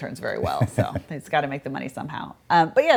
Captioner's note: laughs